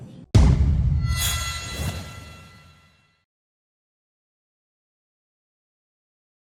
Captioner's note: pounding; harmonic sting